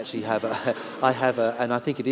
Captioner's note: laughter